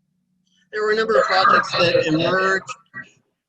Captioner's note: audio feedback